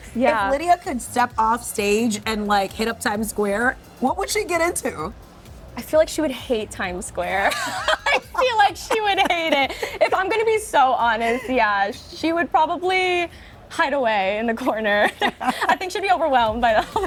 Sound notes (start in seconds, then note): 7.4 both laughing; 15.0 laughing